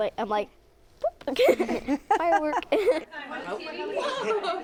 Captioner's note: laughter